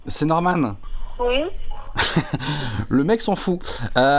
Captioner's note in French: rire